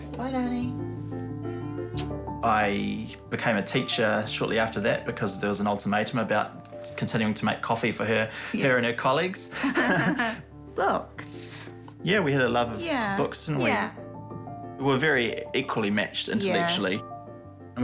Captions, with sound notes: Bye, Lanny. (SMOOCHES) I became a teacher shortly after that because there was an ultimatum about continuing to make coffee for her and her colleagues. Yeah. (BOTH CHUCKLE) Books. Yeah, we had a love of books, didn't we? Yeah, yeah. We're very equally matched intellectually. Yeah.